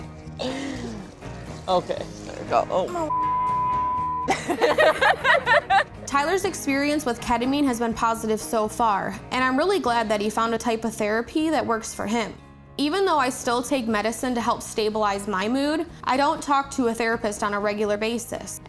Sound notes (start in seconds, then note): 0.1 both giggling; 4.2 both laughing